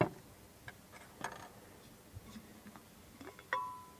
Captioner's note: making coffee sounds